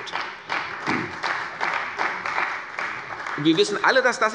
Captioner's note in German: Beifall bei Abgeordneten der CDU